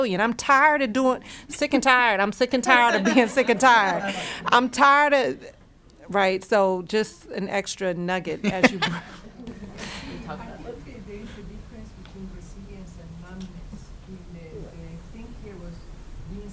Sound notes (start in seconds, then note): 8.4 laughing; 10.5 voice muffled; 14.9 voice muffled